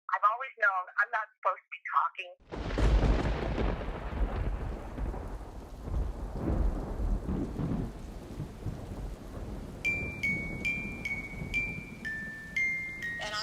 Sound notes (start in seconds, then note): 2.4 thunder crashes; 2.4 rain pattering; 9.8 gentle twinkling music